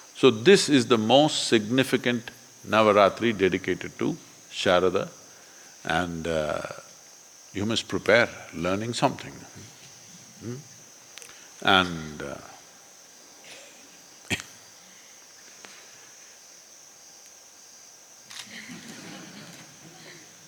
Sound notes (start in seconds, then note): 11.5 laughter; 18.4 laughs